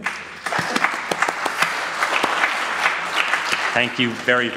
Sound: audience applauds

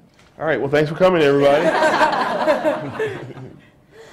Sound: laughter

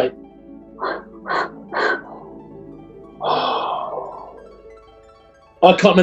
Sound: exhaling

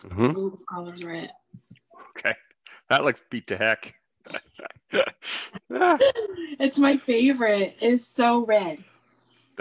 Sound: chuckles

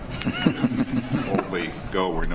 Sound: board members chuckle

